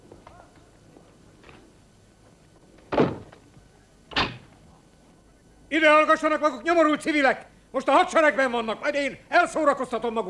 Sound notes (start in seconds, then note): 4.1 lock clunks